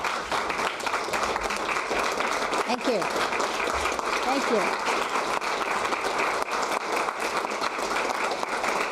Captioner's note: applause